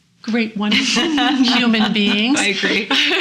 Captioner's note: laughing